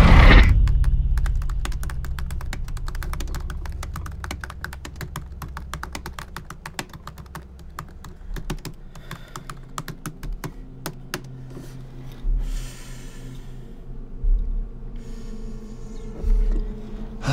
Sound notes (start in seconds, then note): 0.6 tabs clicking; 8.9 Andrew exhales